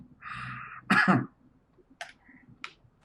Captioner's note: coughs